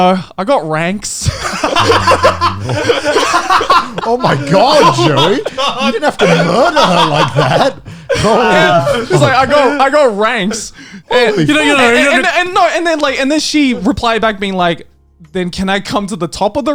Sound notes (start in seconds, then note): 0.2 laughing; 6.5 laughing